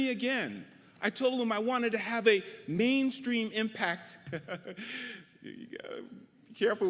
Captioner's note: laughs